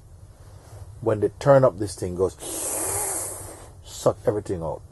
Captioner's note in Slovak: zvuk vťahovania